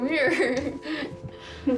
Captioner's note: laughs